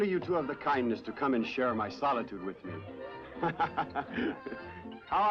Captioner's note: laughing